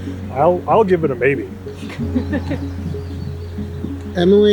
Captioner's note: chuckling